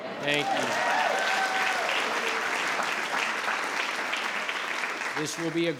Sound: all clapping and cheering

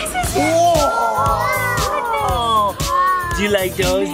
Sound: group exclaims excitedly

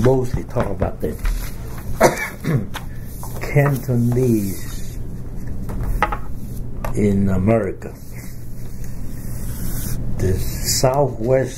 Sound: coughs

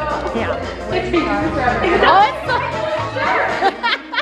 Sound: laughing

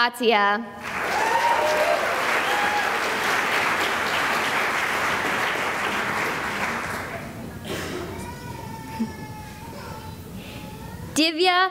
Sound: cheering and applause

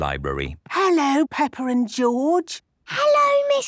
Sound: whispering

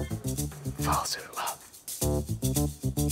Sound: whispers

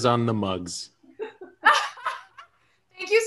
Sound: laughter

